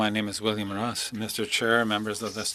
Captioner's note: speaking French